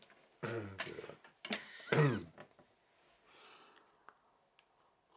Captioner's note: laughs